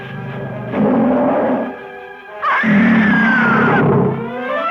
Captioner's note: Pamela screams; dramatic music